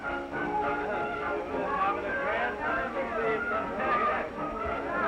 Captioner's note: all chattering